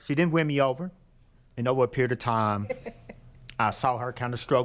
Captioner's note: laughing